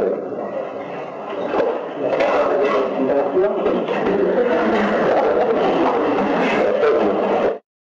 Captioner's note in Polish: laught